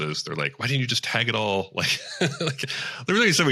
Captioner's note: laughs